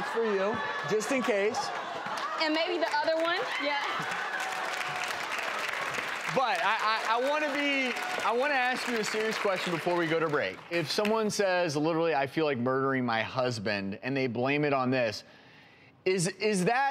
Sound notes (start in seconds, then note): 3.6 audience cheers and applause